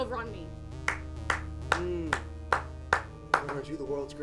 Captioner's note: clapping